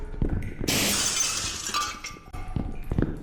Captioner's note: sound of a window shattering